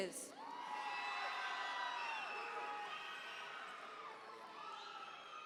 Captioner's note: audience members cheer